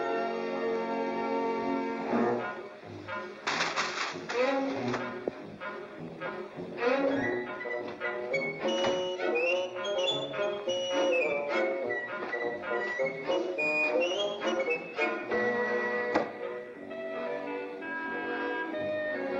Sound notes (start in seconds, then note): 2.0 playful music; 3.4 paper crumples; 5.0 playful music; 8.6 door closes; 9.7 playful music